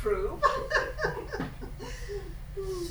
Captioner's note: laughing